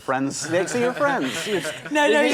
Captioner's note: laughter